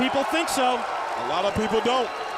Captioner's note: crowd cheering